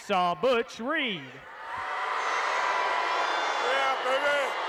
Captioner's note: audience cheering